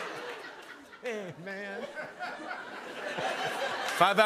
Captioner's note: laughter